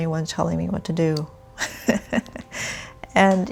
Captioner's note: laughs